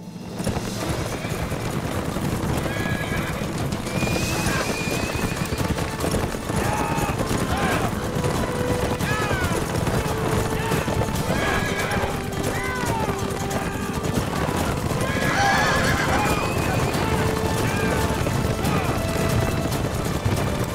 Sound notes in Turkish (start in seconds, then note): 0.2 Gerilim müziği; 6.2 Bağırıyorlar; 17.6 Gerilim müziği